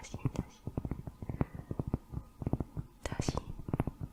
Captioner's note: tapping on cork